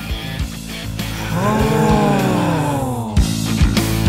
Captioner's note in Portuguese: pessoas admiradas em coro